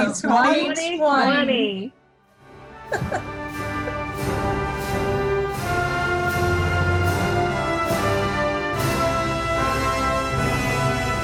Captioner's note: laughing